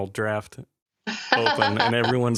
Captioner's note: laughter